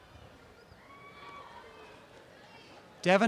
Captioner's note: applause and cheering